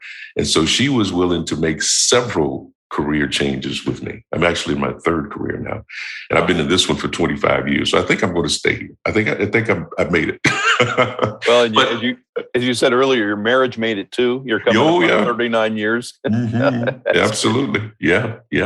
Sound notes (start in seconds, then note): 10.2 laughter; 16.2 chuckle